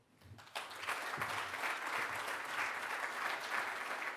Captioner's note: audience applauds